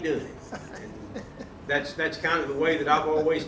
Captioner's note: chuckling